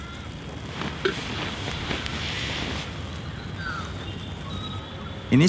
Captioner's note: birds, ambient camp sounds